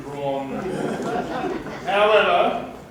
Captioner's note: laughter